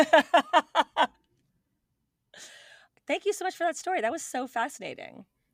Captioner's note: laughing